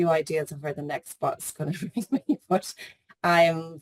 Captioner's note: laughs